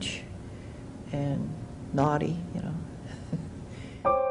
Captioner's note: laughs